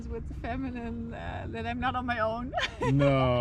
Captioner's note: laughs